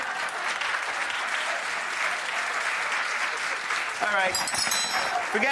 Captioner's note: audience applause